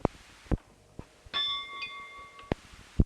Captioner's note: bell Sound